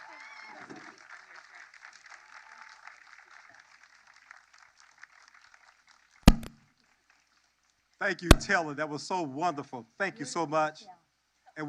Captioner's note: cheers and applause